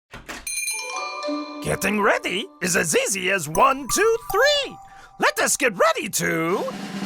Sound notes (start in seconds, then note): 0.4 bell rings